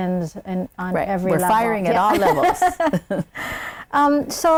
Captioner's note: laughing